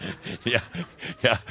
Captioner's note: Adamus chuckles